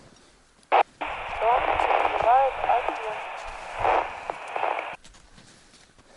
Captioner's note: radio